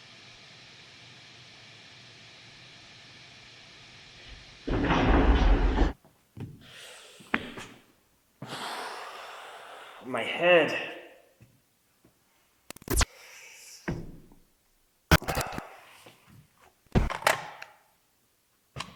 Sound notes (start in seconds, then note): 4.7 footsteps stomping; 8.4 exhales; 12.9 static crackling; 17.2 phone clicks